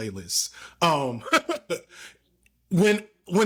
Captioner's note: laughing